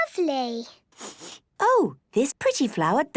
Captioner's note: sniffs